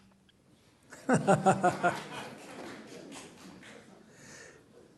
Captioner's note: laughter